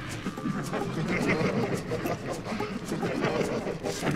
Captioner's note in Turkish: Uğultulu gülme sesleri